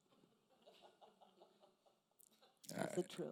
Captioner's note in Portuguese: risos da plateia